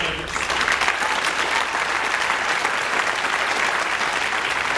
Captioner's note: audience applauds